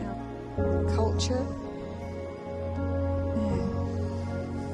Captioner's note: none